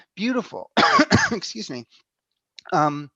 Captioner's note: coughs